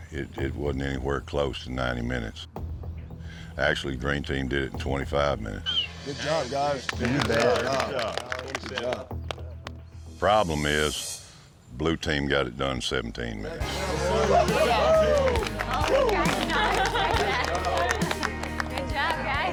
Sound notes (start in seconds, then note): 6.8 applause; 13.6 cheering, applause